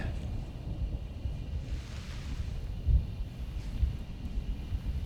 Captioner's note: none